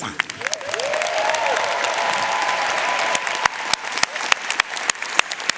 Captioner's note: audience cheering and applauding